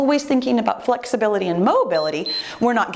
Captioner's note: timer beeps